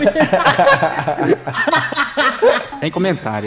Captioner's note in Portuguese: risos